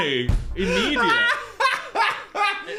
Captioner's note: Dan laughing